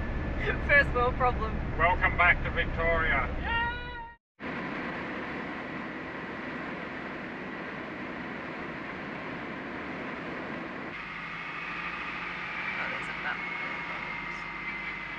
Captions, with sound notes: first world problem! Welcome back to Victoria YAAY!!! (truck noise)